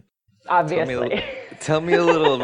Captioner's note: laughs